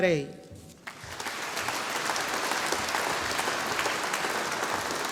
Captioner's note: audience applauding